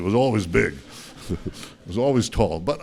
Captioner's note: laughter